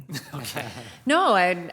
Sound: group laughs

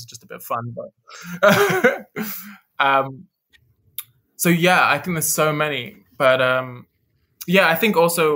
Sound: lauhgs

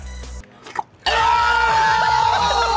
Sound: slurping; screaming and laughing

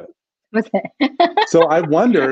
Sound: laughs

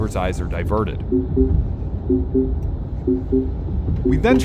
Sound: beeping

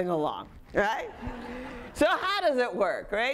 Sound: audience laughing

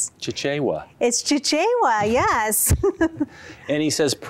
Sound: laughter

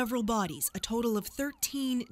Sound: sirens

